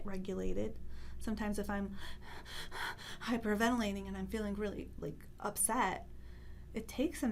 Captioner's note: heavy breathing